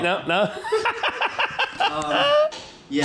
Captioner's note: laughs